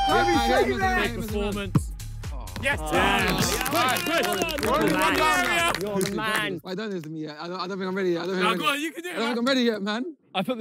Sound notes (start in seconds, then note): 2.9 players clap